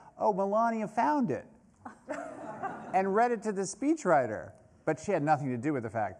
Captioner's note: laughter